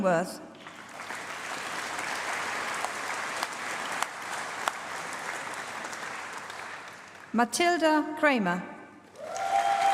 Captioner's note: applause; applause